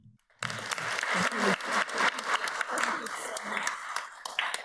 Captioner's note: audience applauds